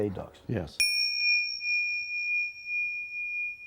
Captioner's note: bell chimes